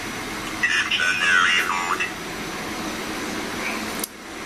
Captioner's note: computer voice